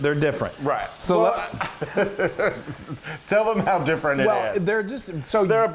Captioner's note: laugh